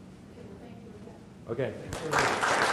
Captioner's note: audience applauding